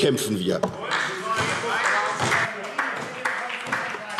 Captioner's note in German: Beifall SPD - Zurufe